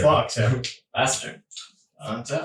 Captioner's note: all laughing